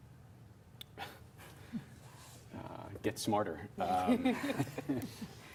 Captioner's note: laughs